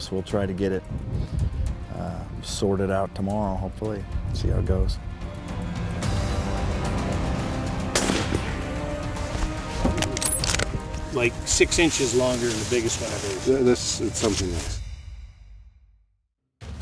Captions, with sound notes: We'll try to get it sorted out tomorrow hopefully. See how it goes. (suspenseful music) (gun firing) (gun bolt racking) - Like six inches longer than the biggest one I've ever seen. - It's something nice